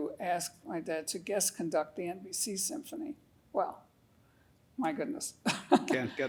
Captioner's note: laughing